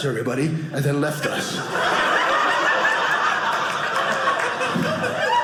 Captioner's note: audience laughing